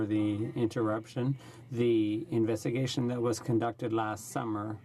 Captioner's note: speaking in french